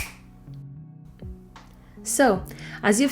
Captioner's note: snap